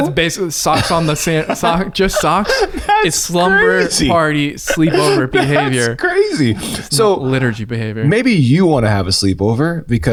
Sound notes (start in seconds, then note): 1.5 laughs; 5.8 laughs